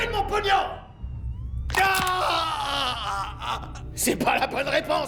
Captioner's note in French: Craquement bruyant, un homme qui crie